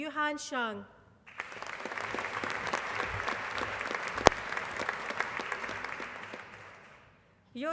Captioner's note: applause